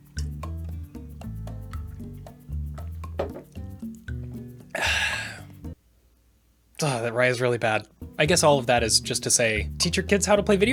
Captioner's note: takes heavy drink